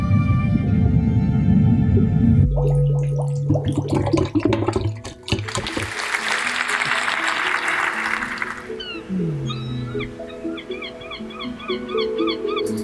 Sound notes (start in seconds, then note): 2.4 water dripping; 6.9 audience applauding; 9.8 bird calls